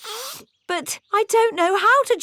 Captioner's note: sniffs